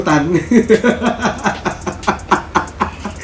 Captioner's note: laughter